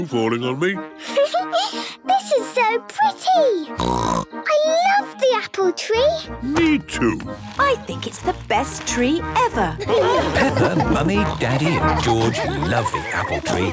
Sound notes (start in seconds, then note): 0.5 Peppa laughing; 3.7 snorting; 9.7 laughter